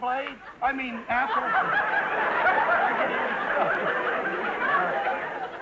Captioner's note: audience laughter